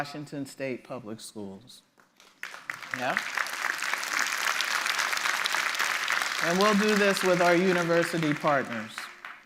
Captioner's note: applause